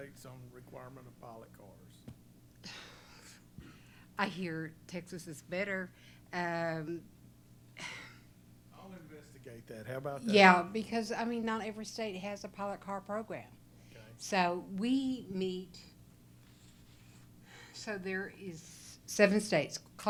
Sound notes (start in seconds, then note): 2.6 sighs